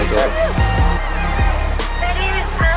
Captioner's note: crowd cheering